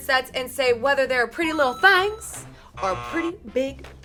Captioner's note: chime sound; buzzer sounds